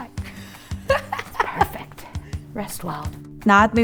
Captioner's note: laughs